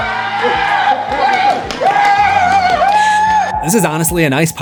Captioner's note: screams